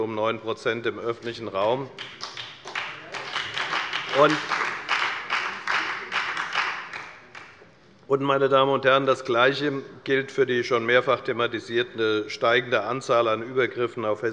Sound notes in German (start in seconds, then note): 1.9 Beifall bei der FDP und bei Abgeordneten der SPD